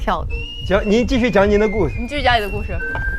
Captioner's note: heart beating fast